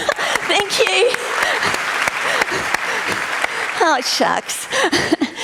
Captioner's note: laughs; applause; laughs